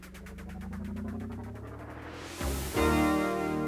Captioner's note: swooshing